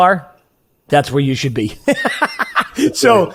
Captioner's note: laughs